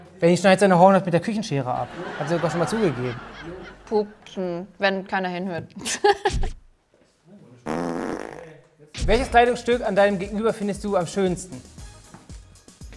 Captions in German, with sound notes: Benni schneidet seine Hornhaut mit der Küchenschere, hat er gesagt. Pupsen, wenn keiner hinhört. (Furzgeräusch) Welches Kleidungsstück an deinem Gegenüber findest du am schönsten?